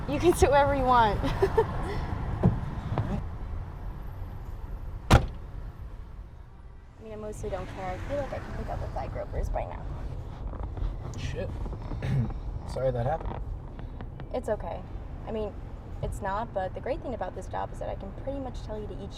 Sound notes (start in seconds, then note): 1.2 laughs; 5.0 door slams; 9.8 speaks faintly